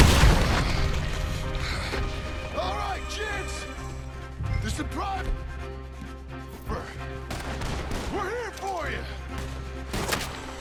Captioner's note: kills the man and shouts outloud